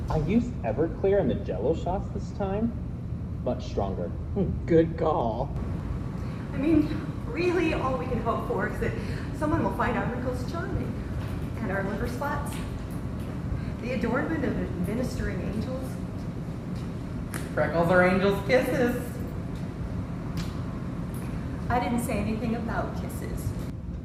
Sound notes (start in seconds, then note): 20.3 kiss